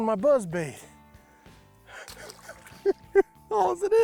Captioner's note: laughs